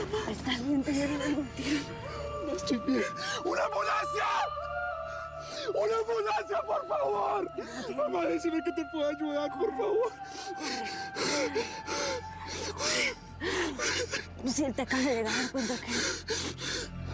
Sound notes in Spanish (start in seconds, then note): 11.4 solloza